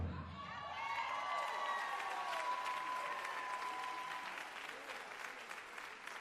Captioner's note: cheers and applause